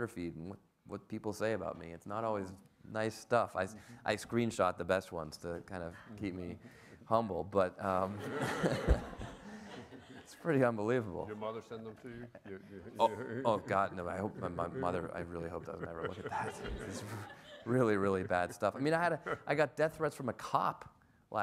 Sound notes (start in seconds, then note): 8.2 everyone laughs; 16.9 everyone laughs